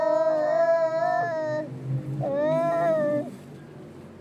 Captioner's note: more humming